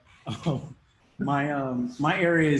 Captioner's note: laughs